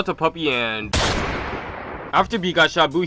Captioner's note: gunshot bangs